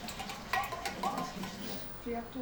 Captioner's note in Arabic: صوت ارتطام وعاء معدني